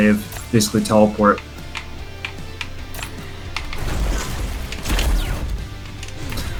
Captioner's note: rock music; explosive game effects